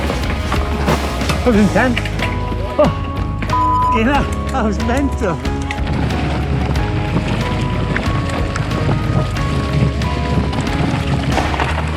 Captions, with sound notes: That was intense. Oh, (beep)-ing hell, that was mental. (gravel crunching)